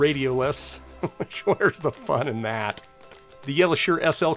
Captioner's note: chuckles